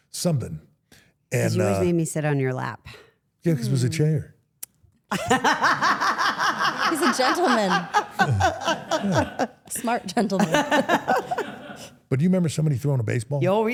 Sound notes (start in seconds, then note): 5.1 everyone laughs